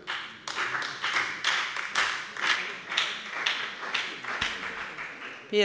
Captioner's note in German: Beifall bei der FDP, der SPD und der LINKEN